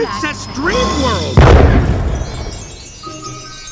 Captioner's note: ball striking; chimes sounding